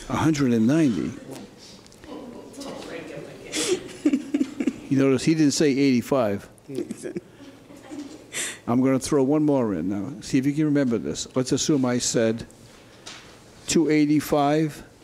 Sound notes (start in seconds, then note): 3.6 chuckles; 6.8 chuckles